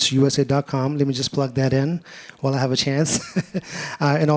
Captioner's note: laughs